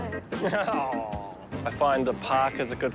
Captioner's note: chuckles